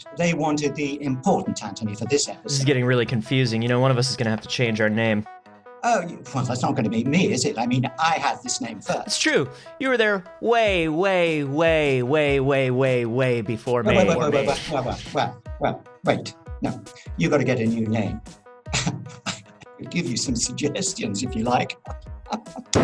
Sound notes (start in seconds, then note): 19.2 chuckles